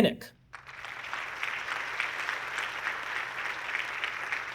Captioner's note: audience clapping